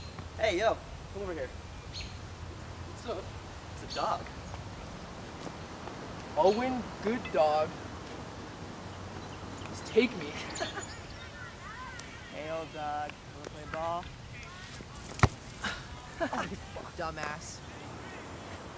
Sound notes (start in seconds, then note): 10.1 laughs; 15.5 boys laughing